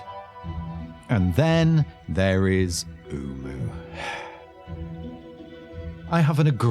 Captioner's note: sigh